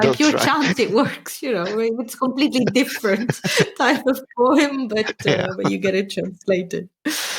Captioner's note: laughing